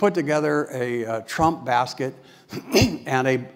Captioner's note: cough